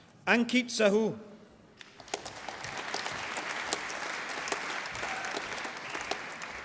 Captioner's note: applause